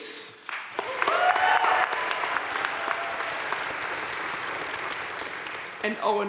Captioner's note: crowd cheering and applauding